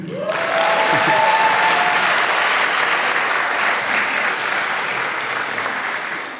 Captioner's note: applause